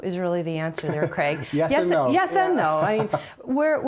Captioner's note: laughing